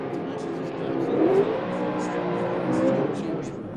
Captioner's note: engine revs